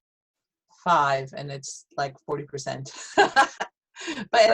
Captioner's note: laughs